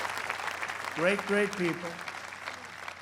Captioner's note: applause